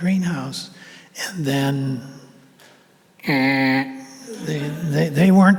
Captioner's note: imitates buzzer